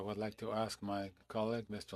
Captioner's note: speaking FRENCH